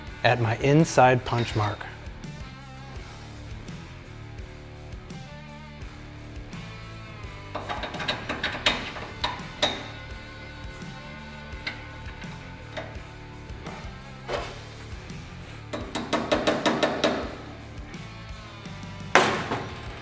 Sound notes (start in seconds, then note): 3.9 upbeat rock music continues; 7.4 metal clinking; 16.3 hammer thumping